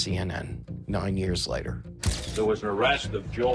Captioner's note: camera flashes